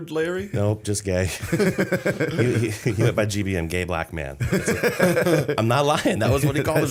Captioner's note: laughter